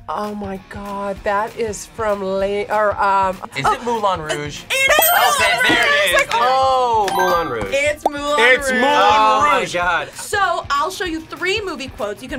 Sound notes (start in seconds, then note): 7.1 buzzer rings